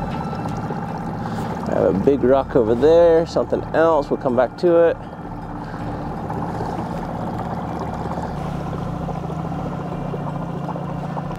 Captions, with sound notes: I have a big rock over there, something else. We'll come back to it. (dramatic music) (boat spluttering)